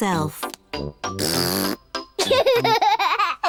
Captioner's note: blows raspberry; giggles